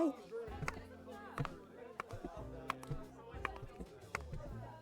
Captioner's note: light teasing tone; footsteps and scuffling